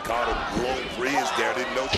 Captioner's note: crowd chants "roxy"